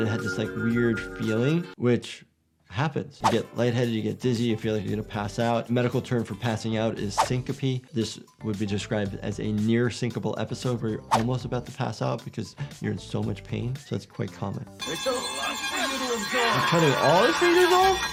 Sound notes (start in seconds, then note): 14.8 eerie music; 15.8 Miles Upshur yells